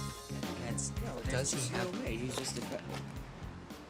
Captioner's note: chatter